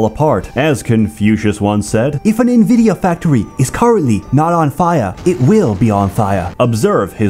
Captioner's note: Chinese voice